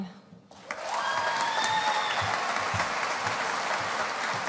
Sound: audience applauding

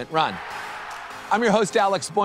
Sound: audience cheering

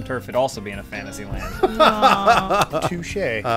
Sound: laughter

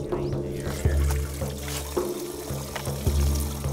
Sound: water running

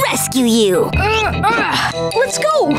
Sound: grunting

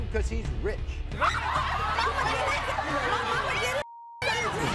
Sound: women yell

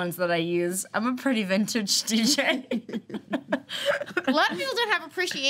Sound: laughs

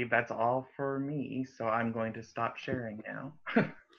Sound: laughter

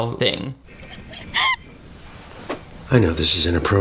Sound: Maddy sobbing

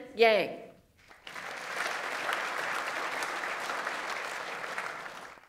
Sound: audience applauds

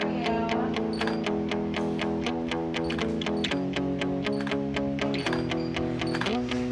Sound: upbeat rock music; camera snapping

